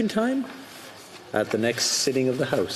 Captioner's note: speaking French